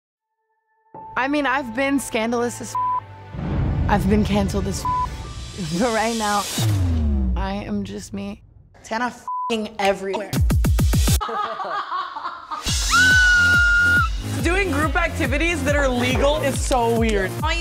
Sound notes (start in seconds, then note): 2.7 beep; 4.8 beep; 9.2 beep; 11.2 laughing; 12.8 screaming